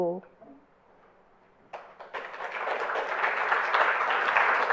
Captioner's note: applause